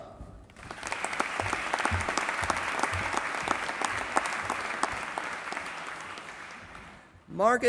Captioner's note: applause